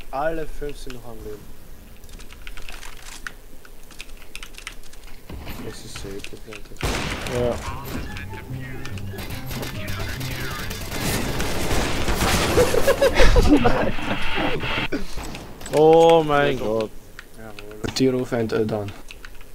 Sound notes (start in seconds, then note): 12.4 all laughing